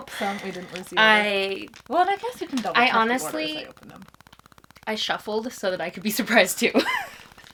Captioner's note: laughs